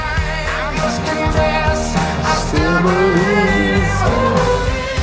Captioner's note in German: Er summt mit